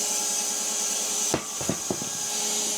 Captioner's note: wood clanging; log saw whirring